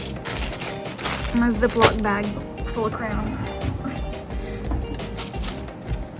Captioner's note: laughs